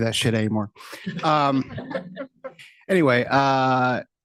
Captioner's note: laughter